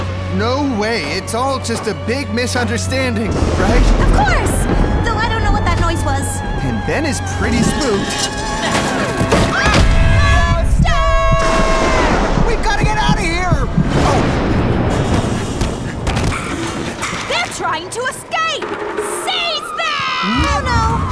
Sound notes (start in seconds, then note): 9.0 crash; 13.7 thunder clap